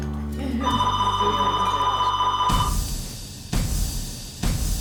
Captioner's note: telephone ringing